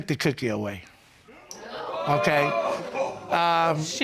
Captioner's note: audience gasping